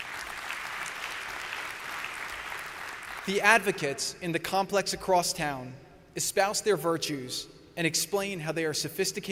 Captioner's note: applause